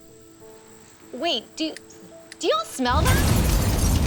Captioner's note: explosion